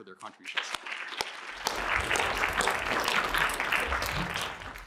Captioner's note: applause